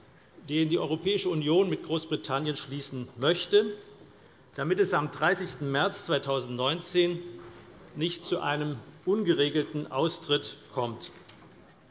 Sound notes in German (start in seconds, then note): none